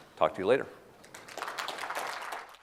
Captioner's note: applause